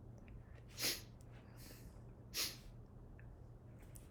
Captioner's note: sniffling